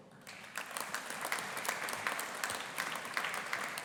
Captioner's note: audience applauding